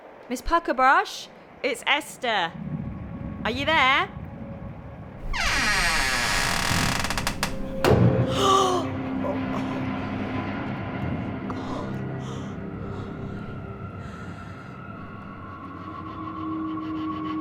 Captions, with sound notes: Miss Puckerbrush? It's Esther. Are you there? [horrified gasp] God...